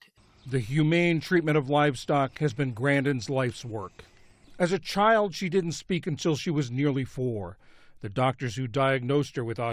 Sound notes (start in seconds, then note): 1.0 voice-over